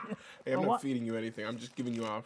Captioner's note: laughing